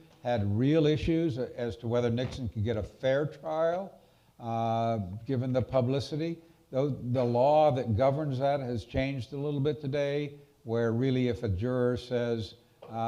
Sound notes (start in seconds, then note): none